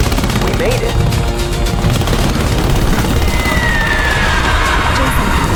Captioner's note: rescue helicopter approaching